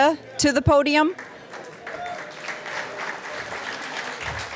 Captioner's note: applause